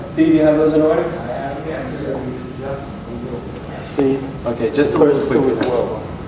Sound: overlapping audience chatter

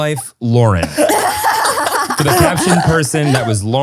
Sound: everyone laughs

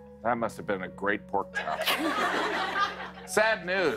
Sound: laughter

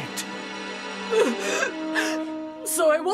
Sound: sobbing

